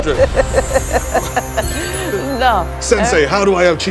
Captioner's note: laughing